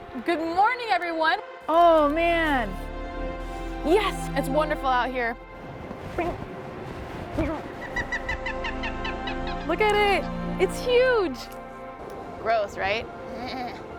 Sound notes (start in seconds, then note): 7.8 bird chirping